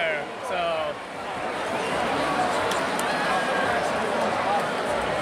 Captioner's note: large crowd cheering